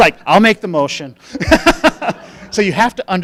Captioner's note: laughing